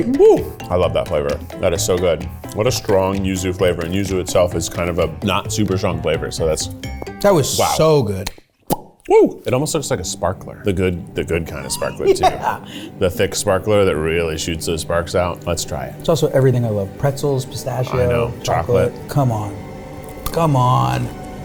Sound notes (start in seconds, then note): 8.2 pops lips